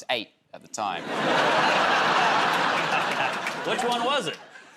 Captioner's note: laughter